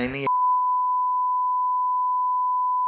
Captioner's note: static beep